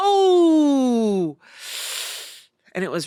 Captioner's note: inhales sharply